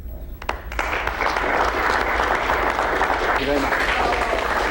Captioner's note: crowd applauds